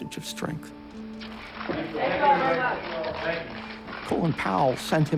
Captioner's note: people talking in background